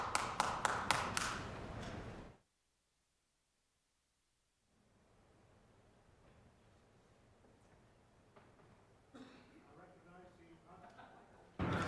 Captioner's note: applause